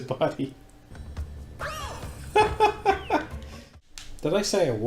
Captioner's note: laughing in contrast